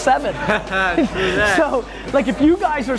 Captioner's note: laughs